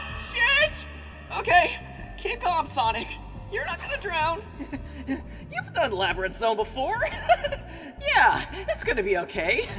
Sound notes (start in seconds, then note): 7.0 chuckling hysterically; 9.5 laughing hysterically